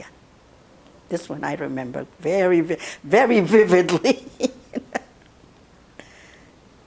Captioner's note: laughing